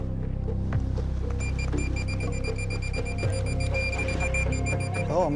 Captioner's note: beeping